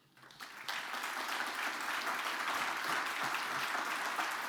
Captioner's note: audience applauding